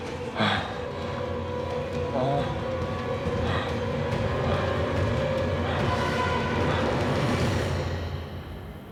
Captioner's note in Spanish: continúa jadeando